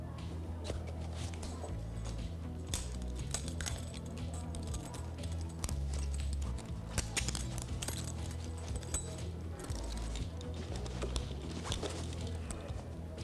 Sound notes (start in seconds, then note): 2.8 cuffs clanking; 7.1 gentle upbeat music